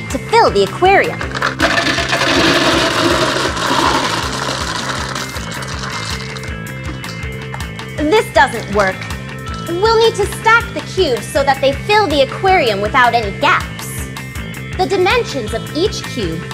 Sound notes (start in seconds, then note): 4.1 cubes clattering